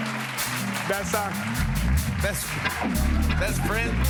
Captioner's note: laughter and applause; applause